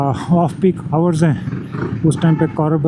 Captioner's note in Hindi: गला साफ़ करने की आवाज़